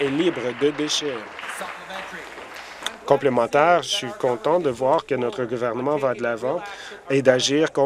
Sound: applause

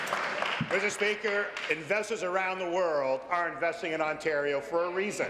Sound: applause

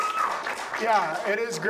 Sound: audience applauds

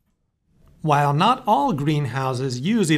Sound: voiceover

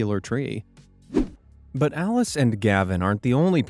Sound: swoosh

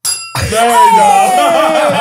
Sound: tins clanging; glass rim pinging; they cheer and laugh

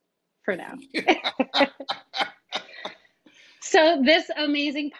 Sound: laughing

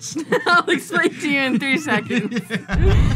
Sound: laughs

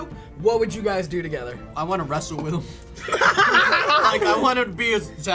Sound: laughing

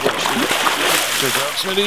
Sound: splashing

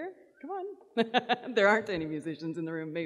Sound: laughs

